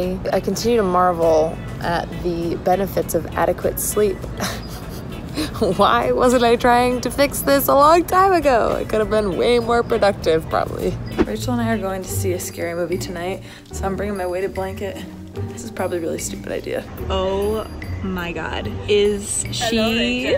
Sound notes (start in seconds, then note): 4.4 laughing